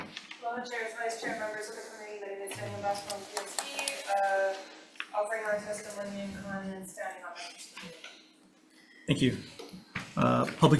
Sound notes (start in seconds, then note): 2.3 faintly speaking; 7.7 faintly speaking